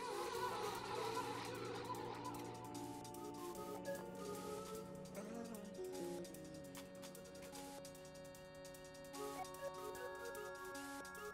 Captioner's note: voices warbling